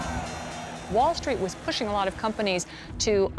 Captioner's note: trading bell ringing